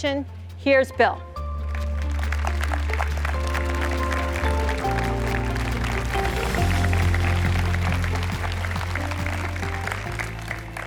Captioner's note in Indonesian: Tepuk tangan